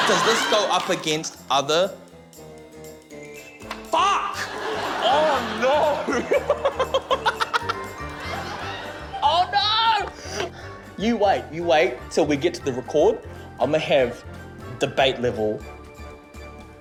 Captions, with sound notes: Does this go up against other...? Fuck! Oh no. (LAUGHS) Oh no! You wait. You wait till we get to the record. I'ma have debate level...